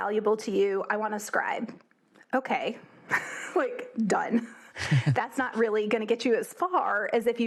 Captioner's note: laugh